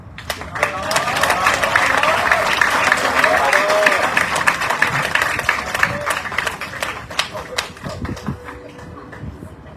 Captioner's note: audience cheering, applauding